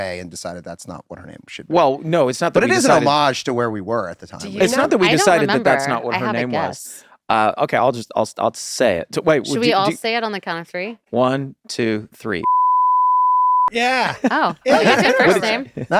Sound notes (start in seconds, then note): 12.4 beep